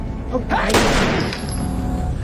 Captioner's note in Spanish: Disparo